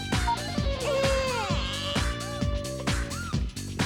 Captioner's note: baby crying